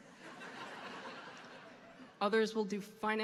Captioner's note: audience laughing